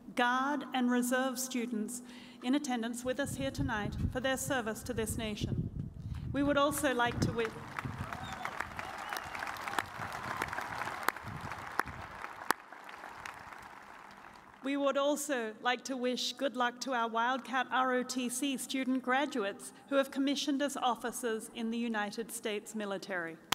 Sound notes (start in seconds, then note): 7.2 cheers and applause